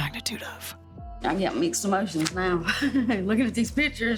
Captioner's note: laughs awkwardly